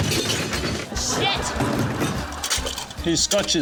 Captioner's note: debris clatters; laughter